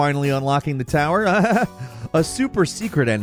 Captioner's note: Falcon laughs